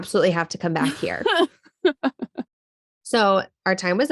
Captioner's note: laughing